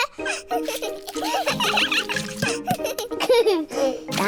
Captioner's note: giggles; all giggling